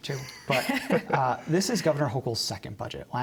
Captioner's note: laughter